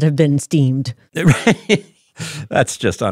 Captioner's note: laughs